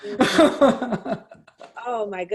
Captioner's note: chuckles